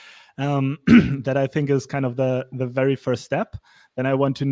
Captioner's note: clears troat